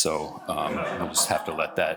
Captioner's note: laugh